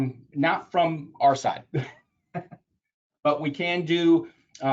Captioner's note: laughs